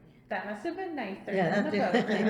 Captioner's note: all laugh